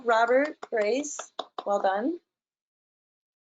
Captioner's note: claps